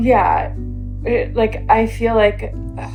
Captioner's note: on Zoom call